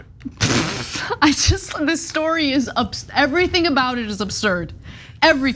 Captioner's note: laugh